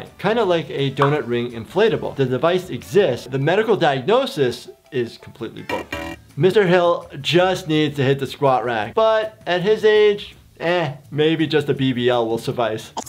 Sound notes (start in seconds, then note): 5.6 buzzing; 13.0 record scratching